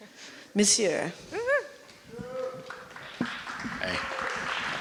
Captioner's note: applause